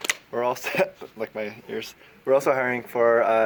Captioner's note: chuckles